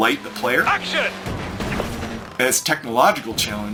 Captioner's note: car engine roaring